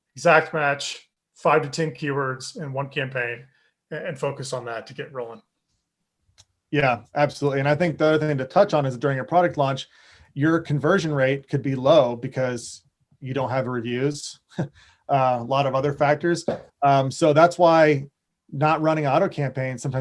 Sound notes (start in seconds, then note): 14.5 chuckles